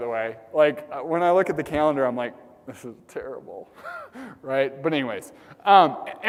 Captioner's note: laugh